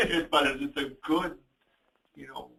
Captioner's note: laughs